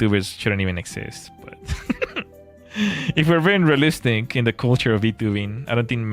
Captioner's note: laughter